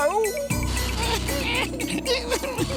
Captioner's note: whimpering